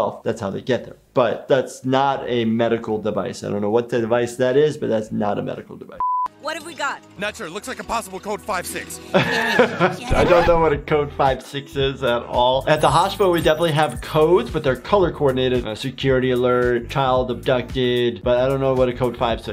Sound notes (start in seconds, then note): 6.0 background tonal beeping; 9.0 laughing